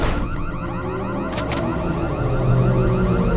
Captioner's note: door crashes open; alarm blaring; gun cocks